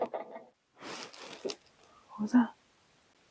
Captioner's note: knock